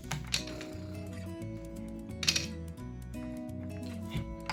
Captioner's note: blows raspberry